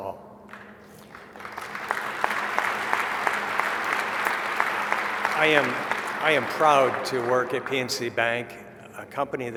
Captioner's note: applause